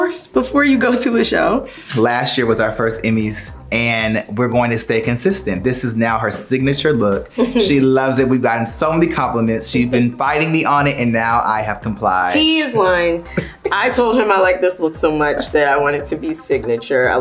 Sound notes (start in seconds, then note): 7.3 Quinta laughs; 13.2 laughs